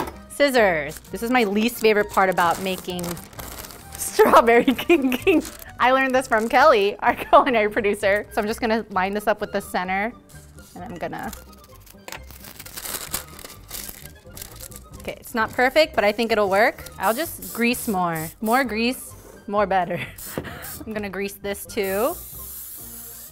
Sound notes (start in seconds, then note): 12.4 paper unfolding; 21.8 spraying